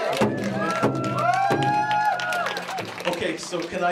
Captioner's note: clapping and cheering